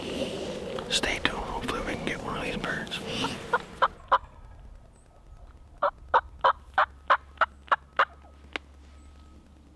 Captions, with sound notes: stay tuned, hopefully we can get one of these birds. (turkey call)